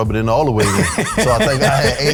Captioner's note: laughing